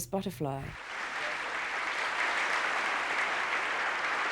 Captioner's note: applause